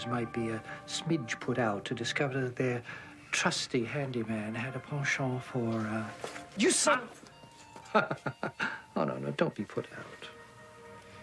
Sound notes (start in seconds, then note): 7.8 chuckles